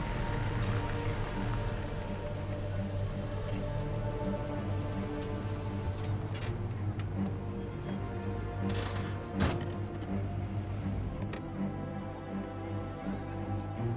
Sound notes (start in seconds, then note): 3.7 engine shuts off; 7.7 brakes squeal